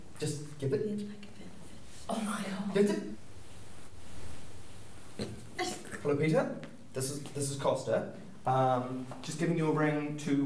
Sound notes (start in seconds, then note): 3.3 rustling; 5.0 snorts